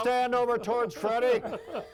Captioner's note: all laughing